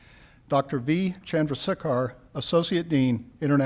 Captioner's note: none